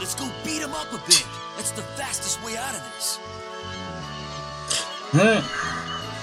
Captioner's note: scoffs